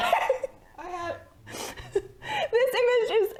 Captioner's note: laughter